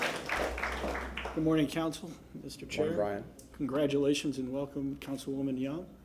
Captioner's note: applause